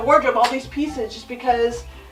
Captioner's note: claps hands